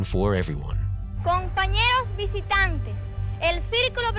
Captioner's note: speaking in Spanish